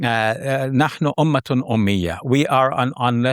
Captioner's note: speaking Arabic